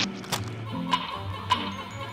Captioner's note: rock clacks